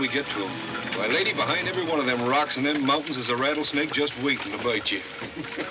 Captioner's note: laughs